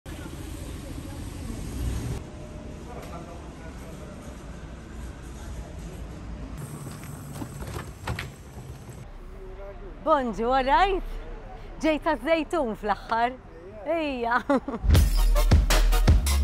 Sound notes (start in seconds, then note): 14.1 laughs; 14.9 uplifting music